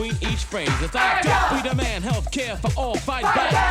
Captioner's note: background rappers - shouting